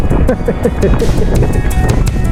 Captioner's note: laughing